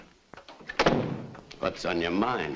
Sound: door thuds shut

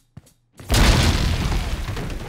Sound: explosion

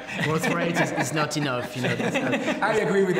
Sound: laughs

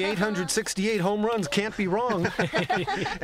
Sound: laughter

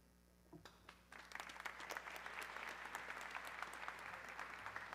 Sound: audience clapping

